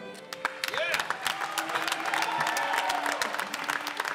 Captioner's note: applause